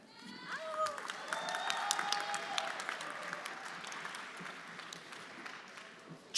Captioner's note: everyone applauding; friends cheering